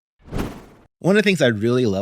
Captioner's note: air whooshes